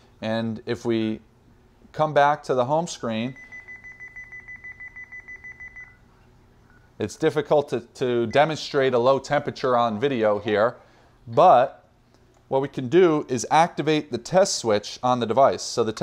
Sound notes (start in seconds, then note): 3.0 panel beeps